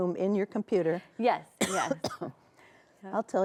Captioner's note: coughs